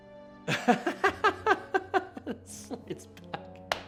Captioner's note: laughs